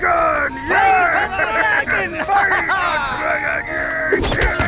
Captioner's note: Daring Glaive cheering